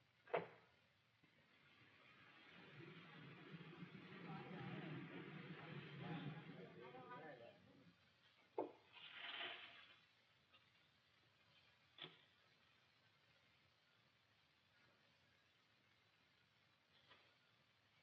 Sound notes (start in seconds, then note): 0.1 door clicks; 4.1 crowd chatter; 8.1 blinds rattle